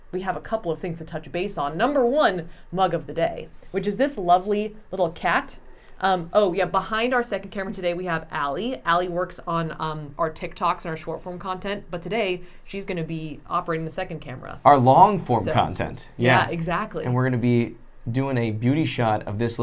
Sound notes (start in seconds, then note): none